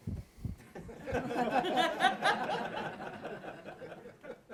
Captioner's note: laughter